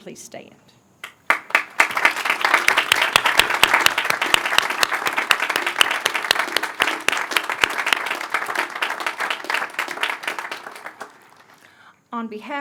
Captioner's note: applause